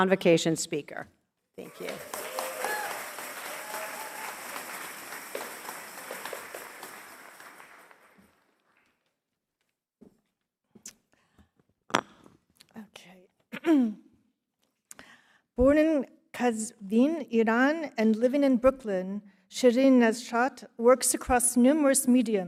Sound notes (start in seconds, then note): 6.2 cheers and applause